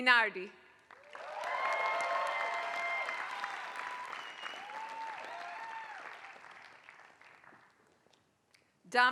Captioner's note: applause